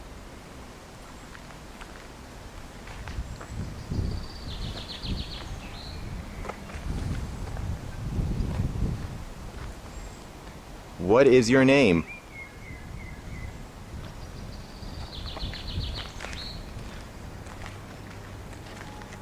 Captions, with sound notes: What is your name? (Birds Chirping)